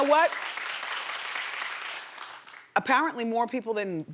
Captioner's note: audience applauding